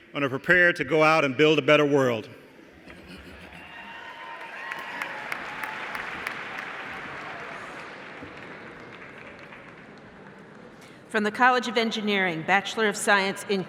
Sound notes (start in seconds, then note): 3.7 applause